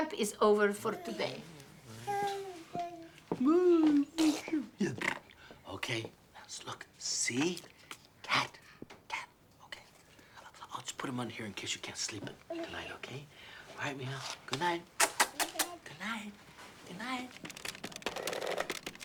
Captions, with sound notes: (Lucia babbling, spluttering) (Joe mimicking Lucia's babbling and spluttering) Okay, now, let's look: "C." "Cat." Cat. Okay? I'll just put them under here in case you can't sleep tonight, okay? All right,mija. Good night. (kissing) Good night. Good night.